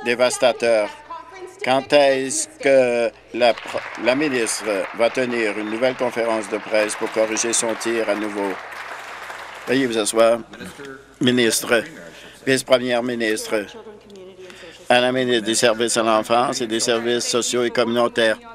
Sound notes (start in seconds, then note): 5.6 applause